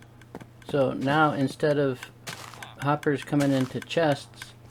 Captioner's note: ticking